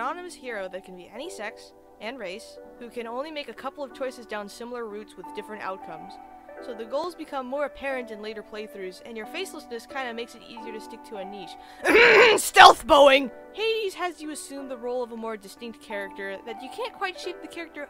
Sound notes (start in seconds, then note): 11.8 cough cough